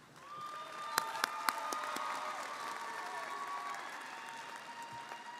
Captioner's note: audience cheering & applauding